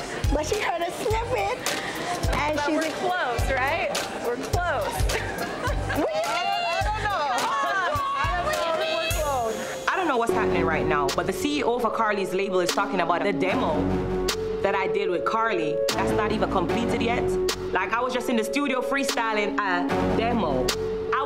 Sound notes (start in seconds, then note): 4.8 laughs